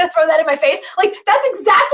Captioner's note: laughs